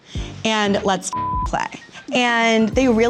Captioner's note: beep